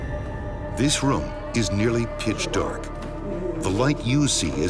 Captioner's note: voiceover